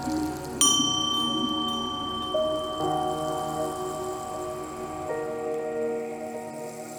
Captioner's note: bell ding